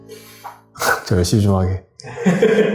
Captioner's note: laugh